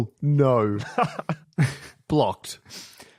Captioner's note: chuckles